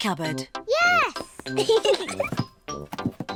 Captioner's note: both giggle